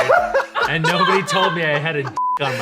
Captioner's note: beep